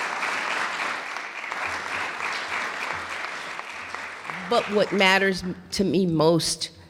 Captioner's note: clapping